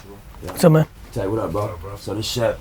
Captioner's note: male Voice